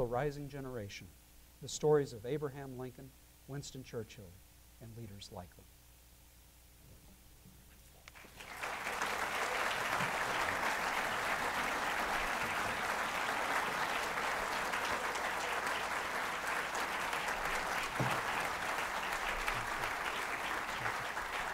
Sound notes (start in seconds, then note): 5.9 applause